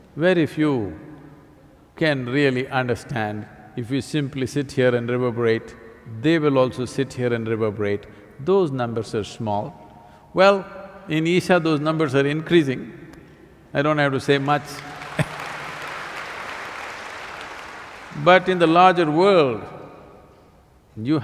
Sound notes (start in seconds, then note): 16.8 applause